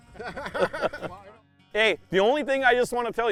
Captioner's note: laughter